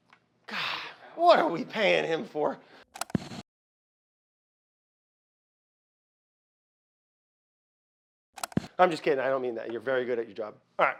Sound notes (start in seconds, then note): 2.8 static hisses; 2.8 tape clicks